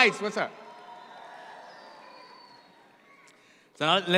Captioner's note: audience cheers